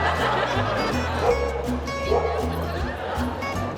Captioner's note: laughter; barking continues